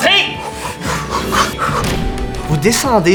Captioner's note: door slamming